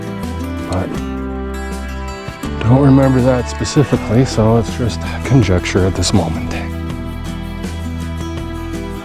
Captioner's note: none